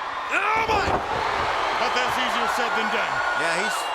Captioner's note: crowd roaring